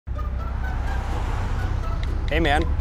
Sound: road noise

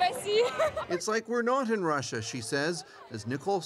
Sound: speaking russian

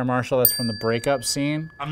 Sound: bell dings

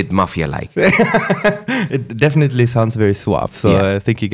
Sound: laughs

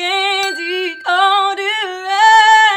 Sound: bell rings

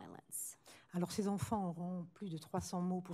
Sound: speaking french

